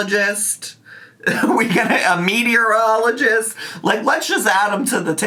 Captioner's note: laughs